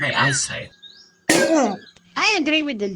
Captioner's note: clang!